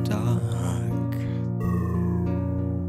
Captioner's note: eery sound lowers tone in the background